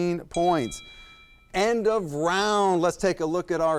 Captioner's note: bell dings